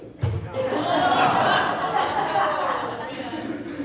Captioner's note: laughing